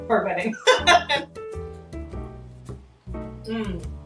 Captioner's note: laughs